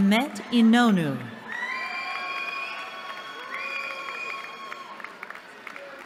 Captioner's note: cheering